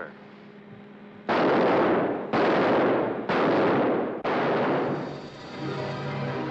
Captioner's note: gunshots; sinister ominous music